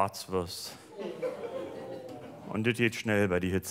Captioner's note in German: Publikum mitleidig